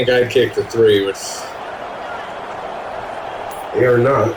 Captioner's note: crowd Noises